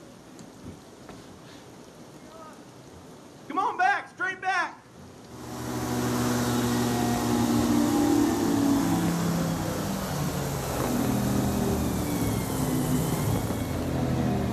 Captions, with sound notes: Come on back straight back [airboat sounds]